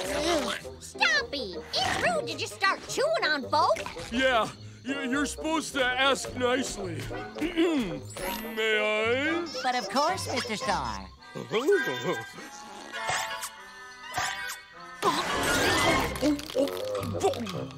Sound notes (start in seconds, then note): 12.6 nibbling; 15.6 chomping; 15.9 grunting